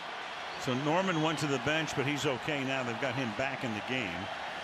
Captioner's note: cheers